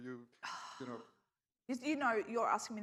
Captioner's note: sighs